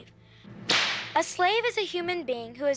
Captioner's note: whip crack